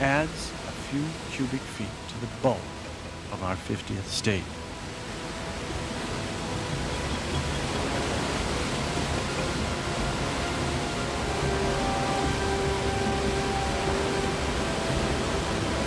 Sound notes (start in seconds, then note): 5.7 steam sounds